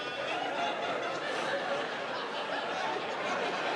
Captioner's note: audience laughing